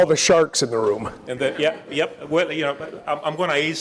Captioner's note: laugh